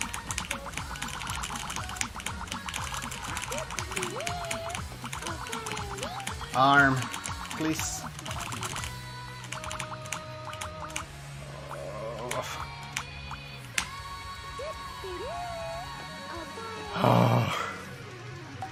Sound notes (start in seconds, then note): 11.4 groans; 16.9 sigh of relief